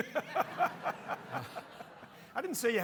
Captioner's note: audience laughing